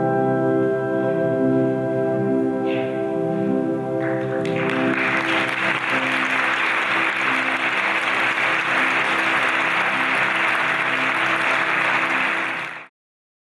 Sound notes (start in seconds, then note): 4.0 audience applauds